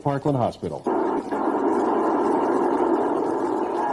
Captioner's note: radio static